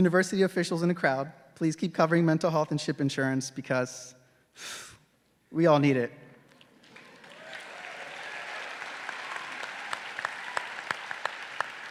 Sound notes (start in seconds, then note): 4.6 exhales rapidly; 6.6 graduates and audience applauding